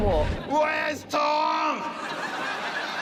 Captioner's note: yells; laughter